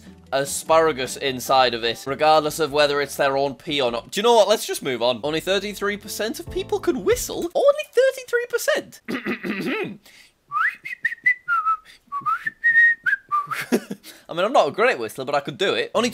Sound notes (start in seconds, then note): 9.1 clearing throat; 10.5 whistling